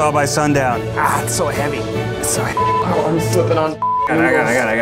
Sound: beeping; beeps

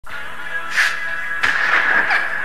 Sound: audible Sniff

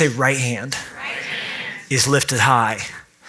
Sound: audience in unison

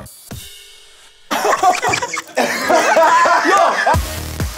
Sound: laughs

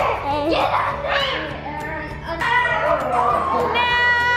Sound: yelling

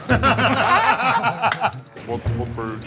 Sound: laughter

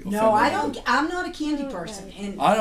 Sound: voiceover

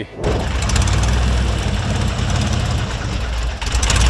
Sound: engine starts

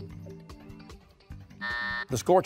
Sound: buzzer

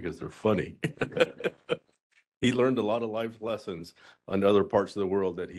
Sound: laughing

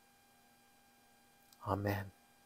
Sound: intentional silence

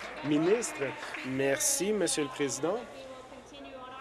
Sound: applause

